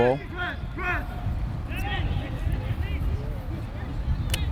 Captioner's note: players shouting